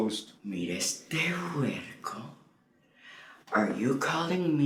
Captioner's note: Spanish